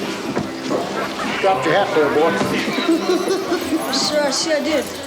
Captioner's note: giggles